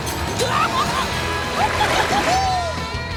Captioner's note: cheering